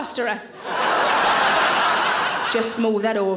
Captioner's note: audience laughing